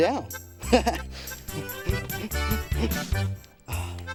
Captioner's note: giggling